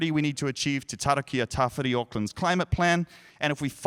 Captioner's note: speaking in foreign language